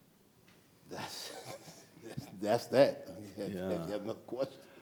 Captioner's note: chuckles